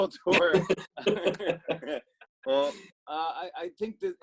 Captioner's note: both laugh